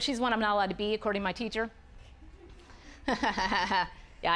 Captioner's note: audience laughing